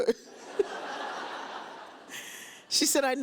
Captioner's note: laughs